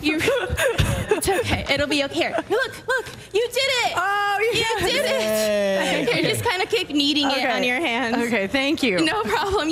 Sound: laughter

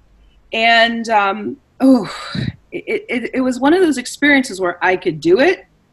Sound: sighs

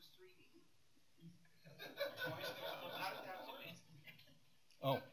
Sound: laughter, speaking indistinctly

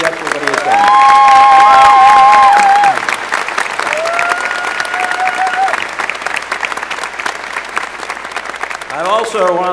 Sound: applause

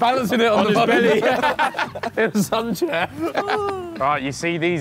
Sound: laughing

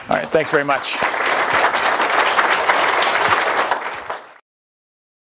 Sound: applause

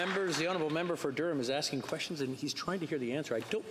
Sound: some Applause

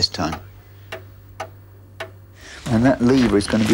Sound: clock ticking

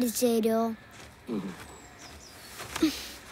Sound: grunts

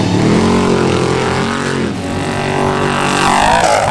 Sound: engine revving

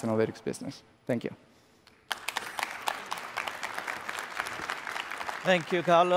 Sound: applause

